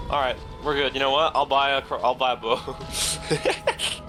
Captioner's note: laughs